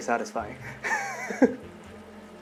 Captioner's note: chuckles